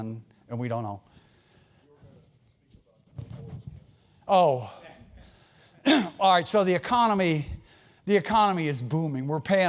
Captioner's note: cough